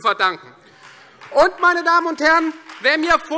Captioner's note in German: Beifall Freie Demokraten